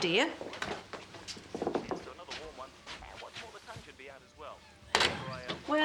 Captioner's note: weatherman on radio